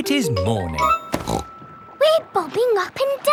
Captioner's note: snorts